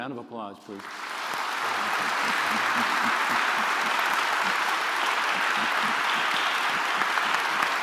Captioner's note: applause